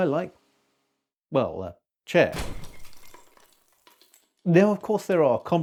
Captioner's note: more clattering